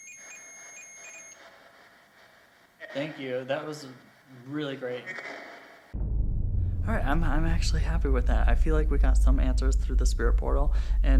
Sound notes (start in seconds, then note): 0.0 sustained ringing tone stops